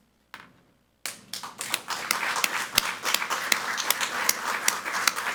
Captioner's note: people clapping